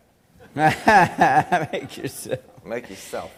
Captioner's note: laughs